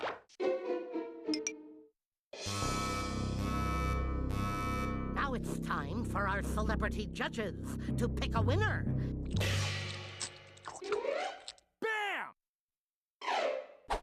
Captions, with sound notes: [beeping] NOW IT'S TIME FOR OUR CELEBRITY JUDGES TO PICK A WINNER. BAM!